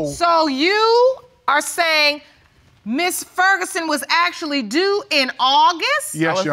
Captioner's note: none